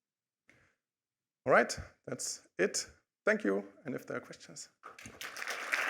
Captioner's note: applause